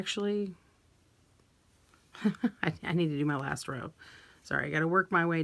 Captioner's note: chuckles